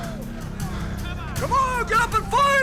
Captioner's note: overlapping chattering